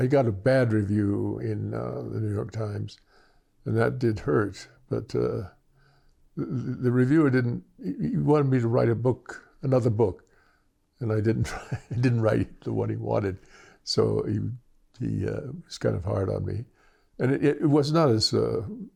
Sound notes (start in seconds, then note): 11.4 laughter